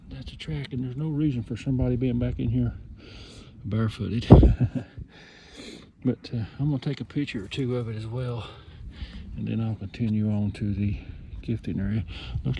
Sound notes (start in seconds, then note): 4.3 chuckles